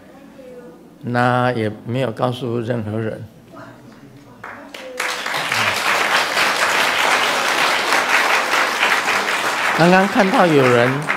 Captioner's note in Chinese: 眾鼓掌